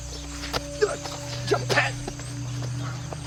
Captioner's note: ominous Music Plays; grunting